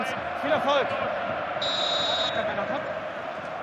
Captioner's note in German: Pfiff